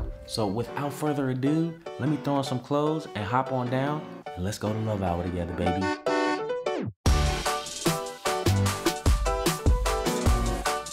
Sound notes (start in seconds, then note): 5.8 car honks; 7.7 upbeat music